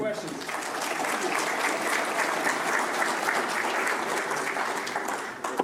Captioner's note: audience applauding